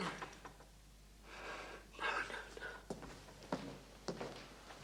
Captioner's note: whispers